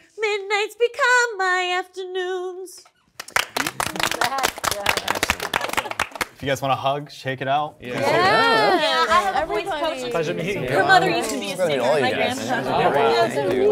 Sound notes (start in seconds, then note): 3.2 participants applauding